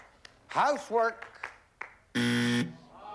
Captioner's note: buzzer